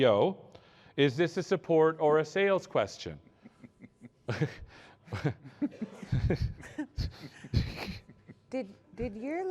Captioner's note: laughter